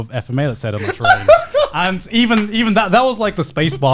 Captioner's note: guys laughing